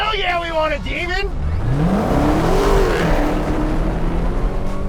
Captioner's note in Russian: двигатель вращается